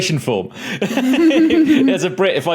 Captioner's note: guests chuckle snidely